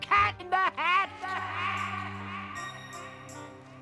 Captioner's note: echoing